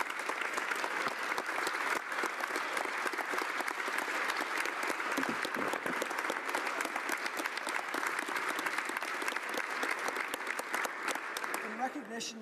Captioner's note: applause